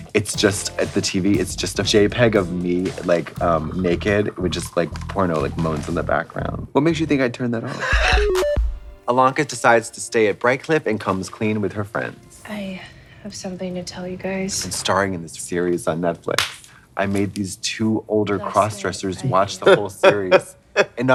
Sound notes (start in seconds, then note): 7.9 Katya hissing; 7.9 bright electronic music; 16.3 hands clap; 19.3 Trixie chuckling